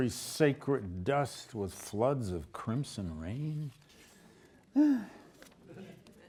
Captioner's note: sighs